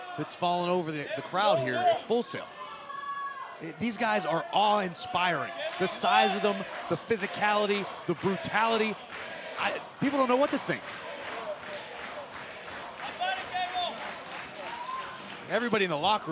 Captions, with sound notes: FALLEN OVER THE CROWD HERE AT FULL SAIL. THESE GUYS ARE AWE-INSPIRING, THE SIZE OF THEM, THE PHYSICALITY, THE BRUTALITY, I--PEOPLE DON'T KNOW WHAT TO THINK. >> [CROWD CHEERING] >> EVERYBODY IN THE LOCKER ROOM,